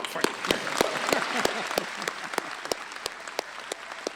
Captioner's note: applause